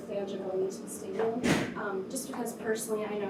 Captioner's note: chair scraping